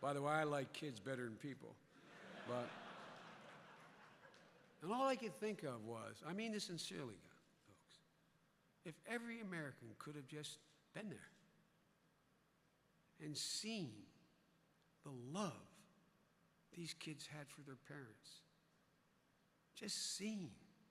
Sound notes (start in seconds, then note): 2.0 laughter